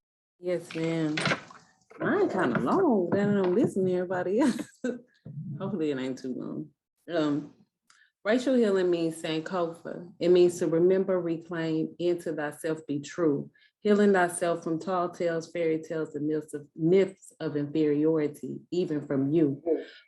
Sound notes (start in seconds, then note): 4.9 laughs